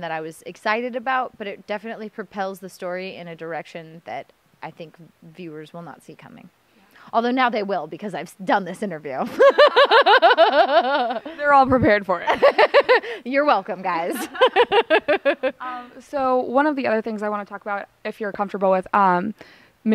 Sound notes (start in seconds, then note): 9.3 laughter; 12.7 laughter